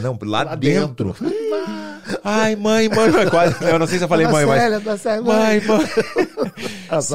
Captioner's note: laughs